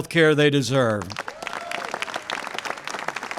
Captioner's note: applause